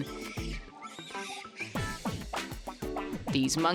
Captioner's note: monkeys chattering